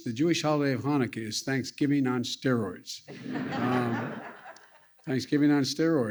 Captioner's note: laughter